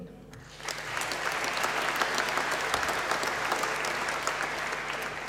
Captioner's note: applause